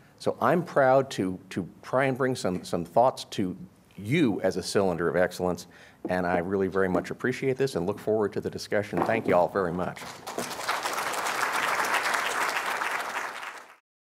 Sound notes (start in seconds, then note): 10.0 applause